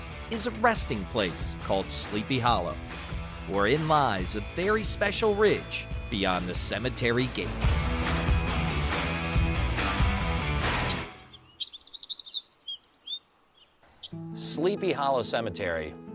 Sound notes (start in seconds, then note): 7.9 upbeat music; 10.4 birds chirping